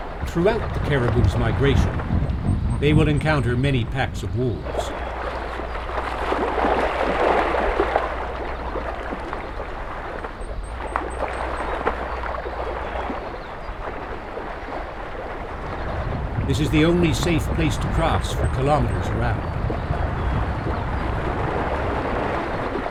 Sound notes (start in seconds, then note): 6.3 caribou splash, grunt